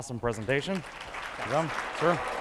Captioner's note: audience clapping